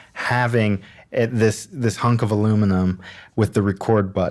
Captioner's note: none